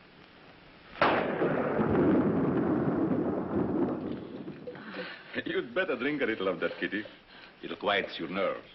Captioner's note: thunder